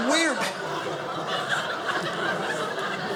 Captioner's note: audience laughing